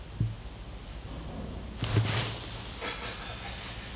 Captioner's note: object thuds